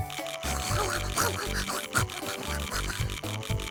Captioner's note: scarfing